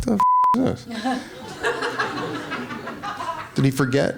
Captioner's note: laughing